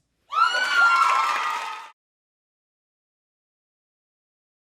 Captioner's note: crowd cheers and claps